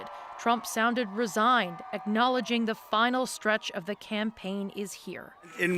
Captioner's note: cheers and Applause